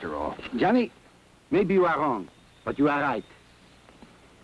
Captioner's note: none